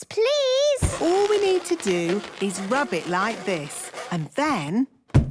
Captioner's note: balloon rubbing; balloon echoes